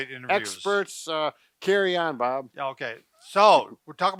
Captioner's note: chuckling